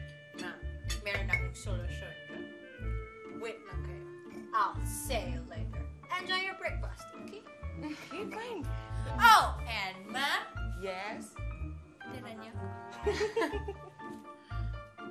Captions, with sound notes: Ma'am, I have a solution. Just you wait. I'll see you later. Enjoy your breakfast, okay? -[chuckles] -Okay fine. -Oh, and ma'am? -Yes? -Leave some for me. -[both chuckle]